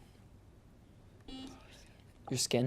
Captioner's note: buzzer beeps